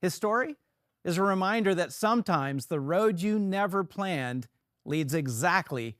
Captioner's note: none